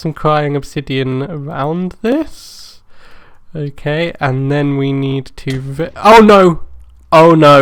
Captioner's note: boom!